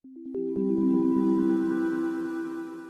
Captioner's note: chimes